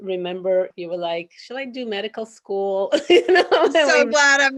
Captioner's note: chuckles happily